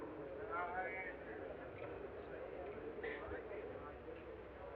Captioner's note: people chatting